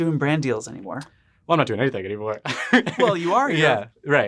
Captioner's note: laughs